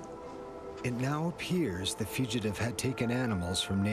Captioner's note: voiceover